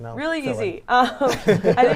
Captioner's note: laughter